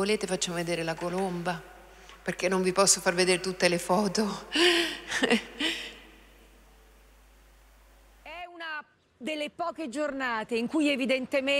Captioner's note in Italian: Risate